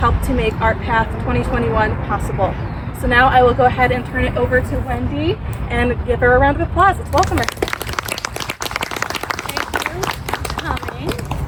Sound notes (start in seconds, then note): 7.1 applause